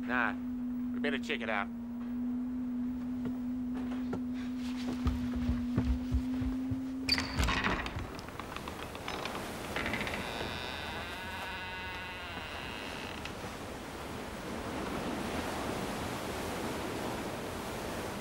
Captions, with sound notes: - Nah, better check it out. (door creaking)